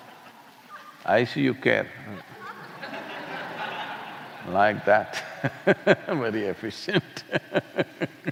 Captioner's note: laughter; laughs